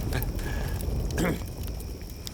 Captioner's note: clears throat